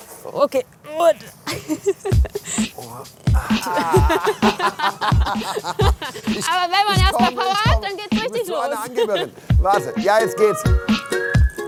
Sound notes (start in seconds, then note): 1.3 giggles; 4.0 laughs